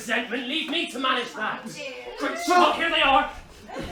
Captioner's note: chatter